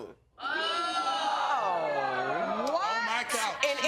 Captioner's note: audience exclaiming in shock